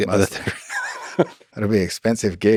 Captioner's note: Lex laughs